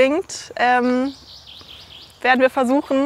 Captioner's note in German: Vogelzwitschern